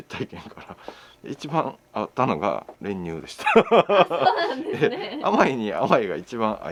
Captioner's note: laughs